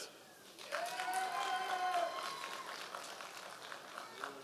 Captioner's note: audience applause